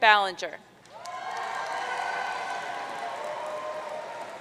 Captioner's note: audience cheering